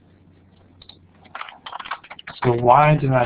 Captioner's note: typing